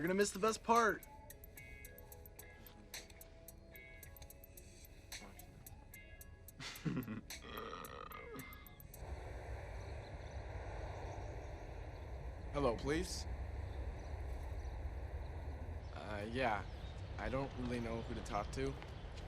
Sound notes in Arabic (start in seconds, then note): 2.2 يضحك; 6.9 التجشؤات